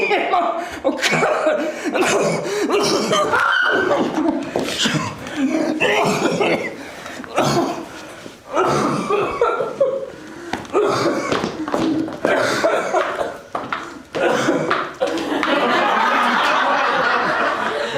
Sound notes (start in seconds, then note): 0.4 wheezing and coughing; 3.2 scream; 3.5 gasps; 4.5 wheezing and coughing